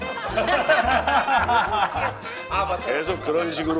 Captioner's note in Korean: 꺄르르